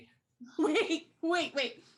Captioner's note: laughing